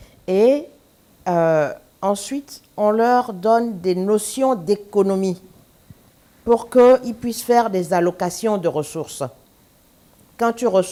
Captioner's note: speaking french